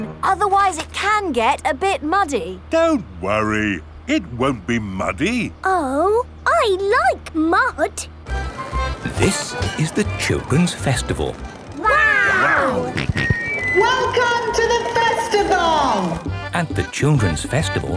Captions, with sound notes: Otherwise, it can get a bit muddy. - Don't worry. It won't be muddy. - Oh! I like mud! - This is the Children's Festival. Wow! - (on microphone) Welcome to the Festival! (jolly folk music) - At the Children's Festival,